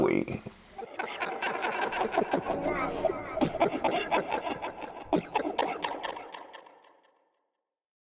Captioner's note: diabolical laugh